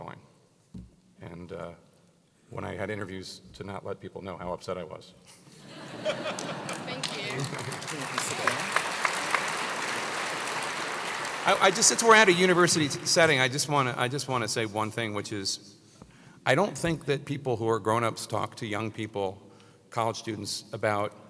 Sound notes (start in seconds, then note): 5.5 laugh; 6.0 applause